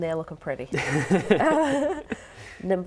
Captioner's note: laughing